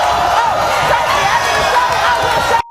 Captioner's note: audience cheering